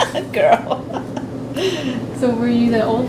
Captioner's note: laughs